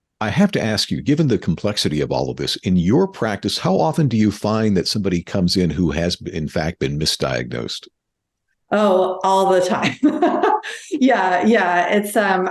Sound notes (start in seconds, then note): 9.4 laughing